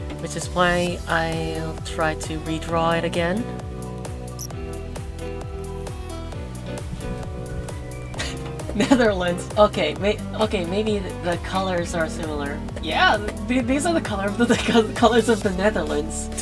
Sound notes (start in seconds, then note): 6.8 chuckles